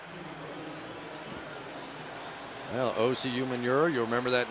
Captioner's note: pa announcement